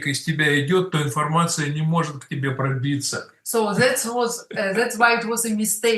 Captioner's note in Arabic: روسي